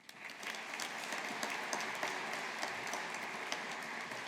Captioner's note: audience applauding